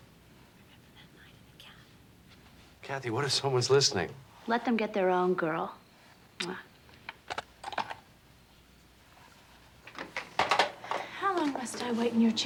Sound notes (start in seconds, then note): 0.1 whispers; 5.8 kisses